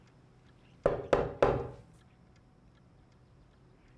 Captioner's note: door knocking